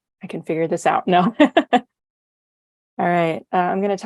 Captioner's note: chuckles